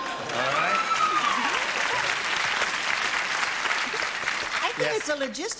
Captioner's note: applause